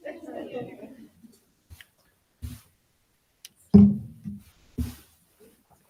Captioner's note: attendees chattering